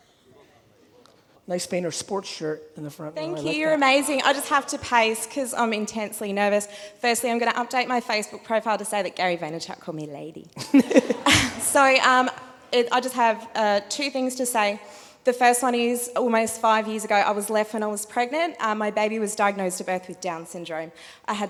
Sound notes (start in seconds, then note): 10.6 all laughing